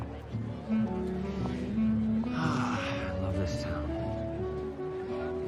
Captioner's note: sighing